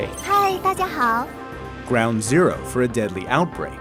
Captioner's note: speaking foreign language